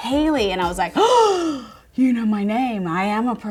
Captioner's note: gasping